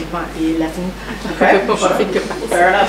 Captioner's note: laughs